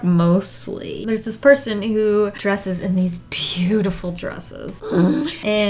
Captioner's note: grunts in awe